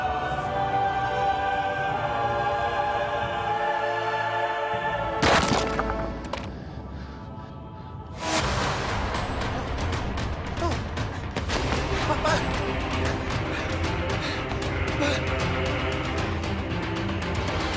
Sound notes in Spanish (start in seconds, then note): 0.0 Grito prolongado; 5.2 Ruido al caer